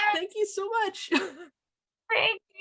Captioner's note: laughs